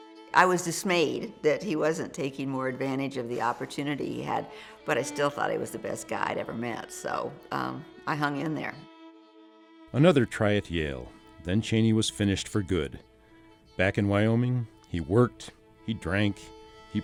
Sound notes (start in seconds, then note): 9.8 voiceover